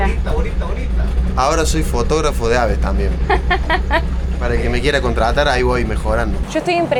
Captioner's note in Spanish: risas